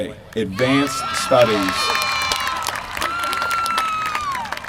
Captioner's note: applause